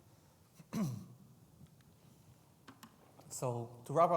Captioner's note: clears throat